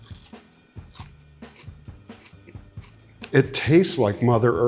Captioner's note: pepper crunching